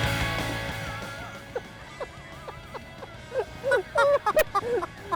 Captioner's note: laughs